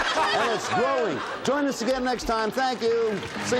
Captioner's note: laughter